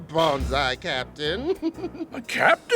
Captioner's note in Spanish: Risas